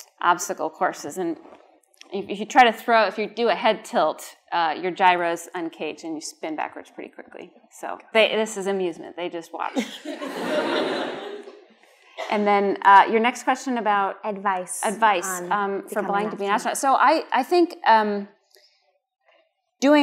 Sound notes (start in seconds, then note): 9.7 laughter